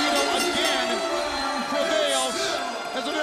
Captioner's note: bell ringing